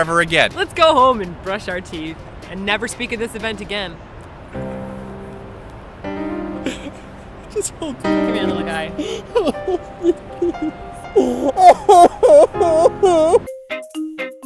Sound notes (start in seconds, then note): 4.3 sad music; 8.4 incoherent sobbing; 8.9 sad sobs; 11.1 sad wails in despair; 13.4 funky music